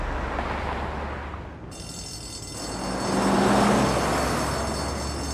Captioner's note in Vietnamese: chuông báo động reo